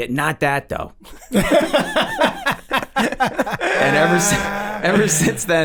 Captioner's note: all laugh